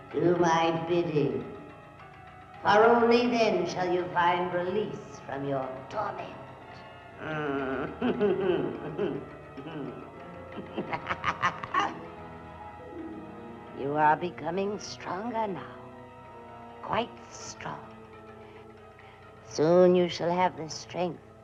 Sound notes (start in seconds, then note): 7.3 Katrina laughing; 10.2 tense brooding music continues